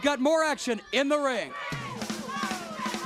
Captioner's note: crowd cheering